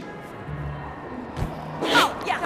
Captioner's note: whoosh